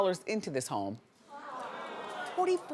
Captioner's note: audience gasps